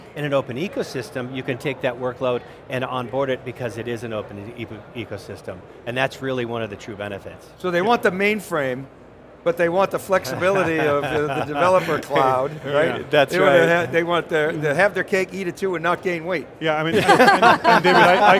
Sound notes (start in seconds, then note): 10.3 laughs; 16.9 group laughs